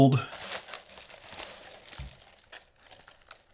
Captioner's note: paper Rustling